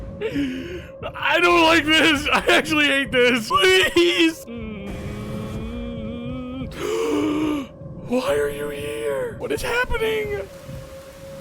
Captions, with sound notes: (gasps) I don't like this! I actually hate this! Please! (whimpers) (gasps) Why are you here!? What is happening?